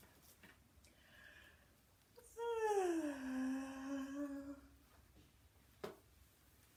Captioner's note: yawning